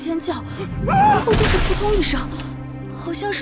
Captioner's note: followed by a thud